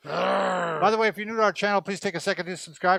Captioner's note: grunting